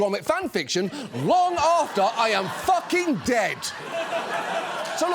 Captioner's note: audience laughs